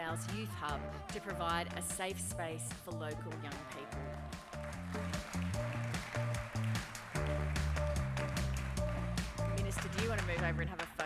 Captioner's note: applause